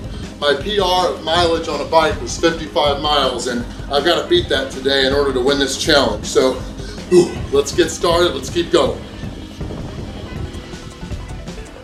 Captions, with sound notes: Years ago, my PR of mileage on a bike was 55 miles and I've got to beat that today in order to win this challenge. So (grunts) let's get started, let's get going. (light music)